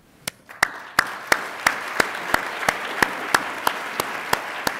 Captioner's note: attendees applaud